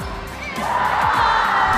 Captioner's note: cheers